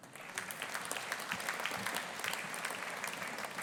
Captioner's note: audience applauding